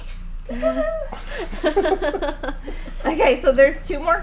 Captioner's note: laughing